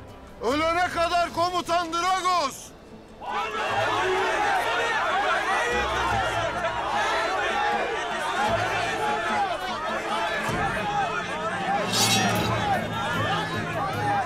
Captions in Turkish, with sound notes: Ölene kadar Komutan Dragos! (Hep bir ağızdan) Hain! Hain köpek! Hain köpek! (Gerilim müziği)